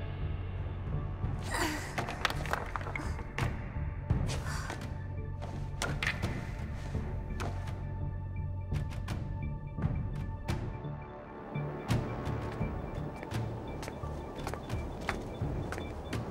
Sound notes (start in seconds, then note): 4.3 gasps